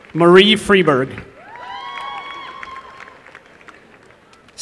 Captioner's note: applause